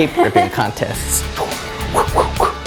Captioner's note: laugh